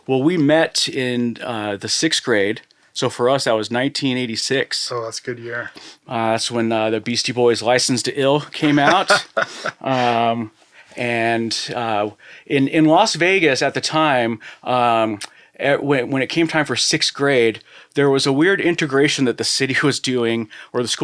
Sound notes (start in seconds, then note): 8.6 laughing